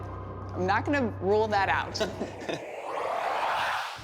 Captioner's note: both chuckle